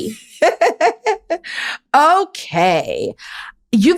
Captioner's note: laughs